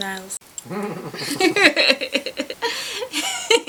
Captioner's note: laughing